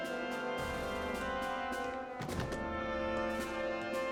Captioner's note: none